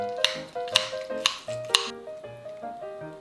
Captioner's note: cutting sound